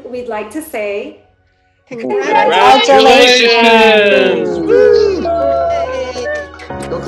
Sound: voices together

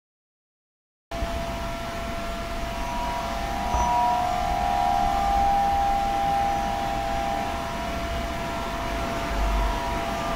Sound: sound of feedbacks

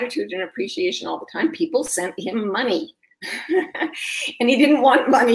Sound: laughs

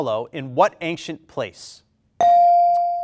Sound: bell rings

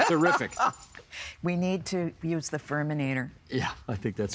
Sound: laughing

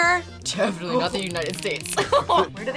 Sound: laughs

